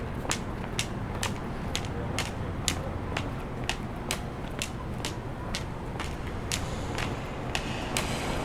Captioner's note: sound cane tapping